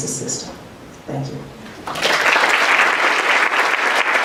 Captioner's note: applause